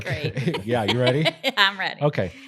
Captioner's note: laughs